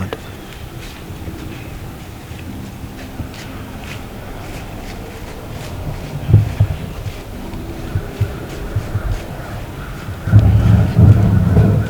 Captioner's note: sound of walking leaves, crows calling